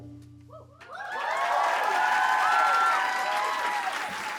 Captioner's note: applause and cheering